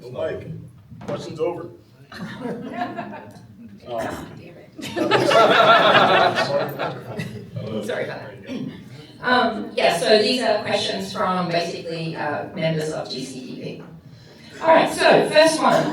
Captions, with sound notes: Like, questions over. [laughter] Ah, damn it. [laughter] Sorry, fine. Yeah, so these are questions from basically members of GCPV. All right, so first one.